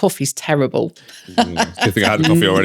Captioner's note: laughing